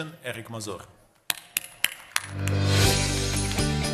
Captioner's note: applause